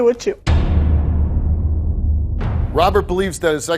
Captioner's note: metallic thudding